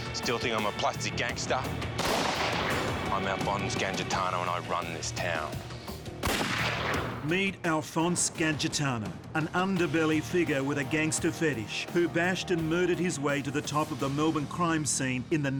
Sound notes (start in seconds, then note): 1.9 gun fires; 6.2 gun fires